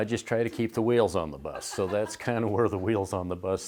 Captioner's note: laughing